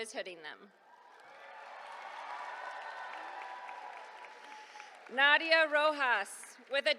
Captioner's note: applause